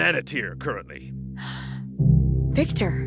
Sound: gasps

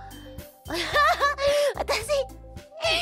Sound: laughs

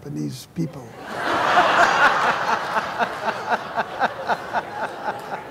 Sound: laughter

